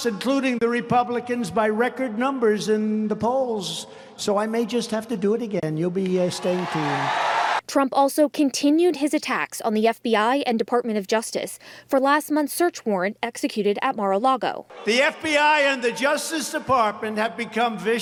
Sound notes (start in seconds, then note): 6.1 crowd cheering